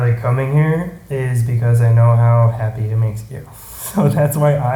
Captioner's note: laughs